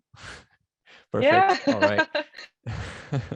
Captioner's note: laughs